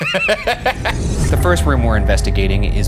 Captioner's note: laughing; ominous music